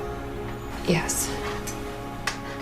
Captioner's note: voiceover